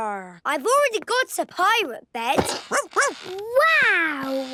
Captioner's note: barking